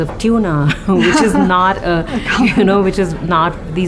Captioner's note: laughter